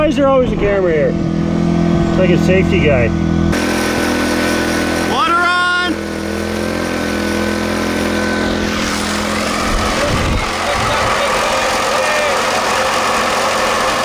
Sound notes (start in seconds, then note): 10.5 shaker running